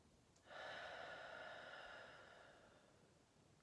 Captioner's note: deep exhaling